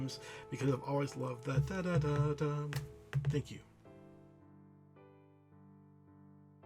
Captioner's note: hum